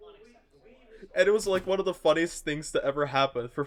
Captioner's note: door slams